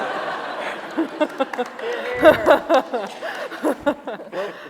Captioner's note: laughter